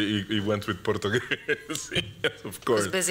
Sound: laughter

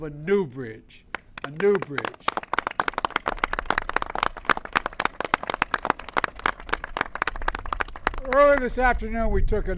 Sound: applause

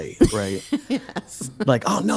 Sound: laughing

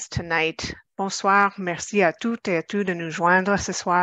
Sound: speaking french

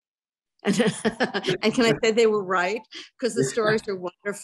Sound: laughs

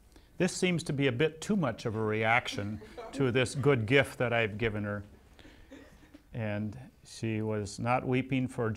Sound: laughs

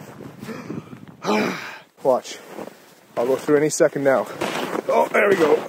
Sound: sigh

